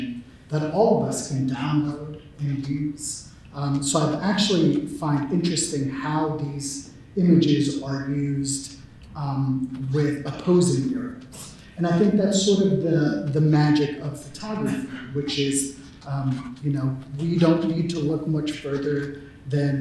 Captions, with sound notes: that all of us can download and use. So I actually find interesting how these images are used with opposing (talks off mic) and I think that sort of the magic of photography, which is we don't need to look much further than